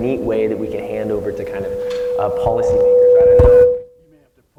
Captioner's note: loud feedback